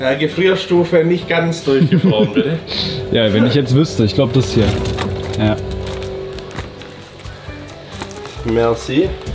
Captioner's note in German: schnauben